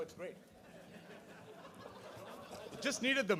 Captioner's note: laughter